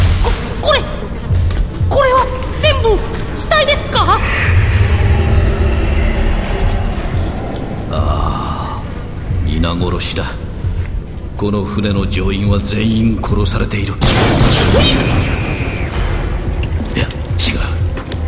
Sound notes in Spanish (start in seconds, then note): 14.0 disparos de blaster y gritos